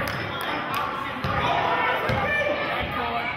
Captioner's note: yelling